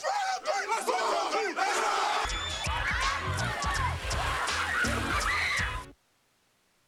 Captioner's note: cheers and applause